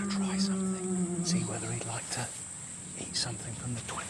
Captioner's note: bellowing